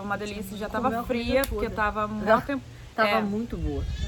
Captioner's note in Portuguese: laughs